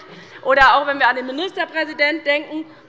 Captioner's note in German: none